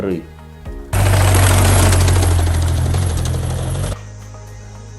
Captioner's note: the noise of a motorcycle riding on the sleepers